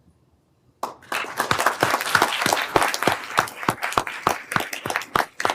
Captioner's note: everyone applauding